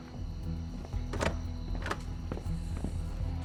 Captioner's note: rattles locked door handle